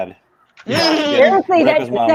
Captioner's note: laughing